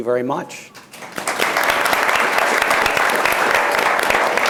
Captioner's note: audience applauds